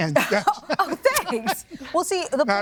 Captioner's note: laughs